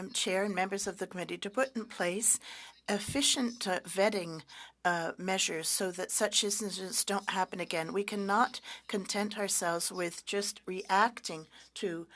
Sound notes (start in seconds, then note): 4.2 speaking French